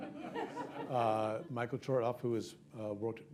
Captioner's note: laughter